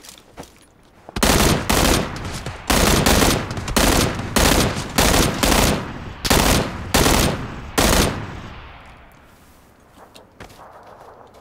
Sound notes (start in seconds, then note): 1.1 gun firing rapidly